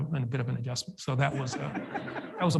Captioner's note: audience laughs